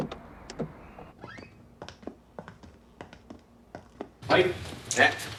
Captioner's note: door creaking; footsteps clacking